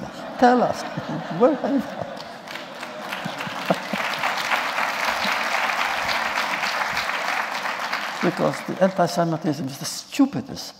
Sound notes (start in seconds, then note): 0.0 laughter; 2.0 applause